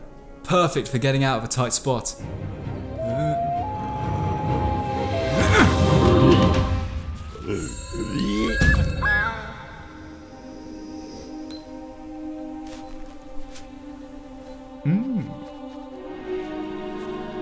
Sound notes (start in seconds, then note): 4.5 knight grunts; 7.3 mushroom gurgles